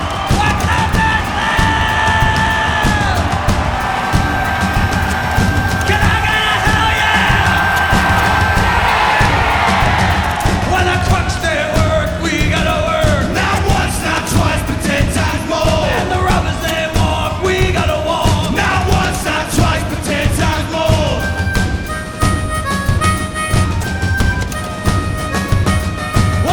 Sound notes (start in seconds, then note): 6.0 crowd cheers; 6.0 upbeat rock music; 10.6 crowd cheering